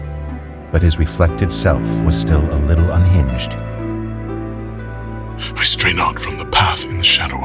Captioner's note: reciting